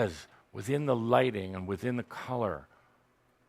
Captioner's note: none